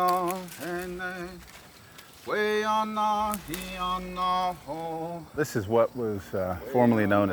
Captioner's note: footsteps on plants